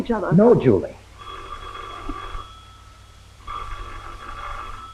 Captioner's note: phone rings